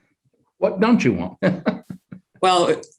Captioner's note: chuckles